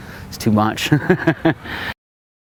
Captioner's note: laugh